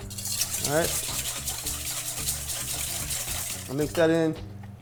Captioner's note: whisk scraping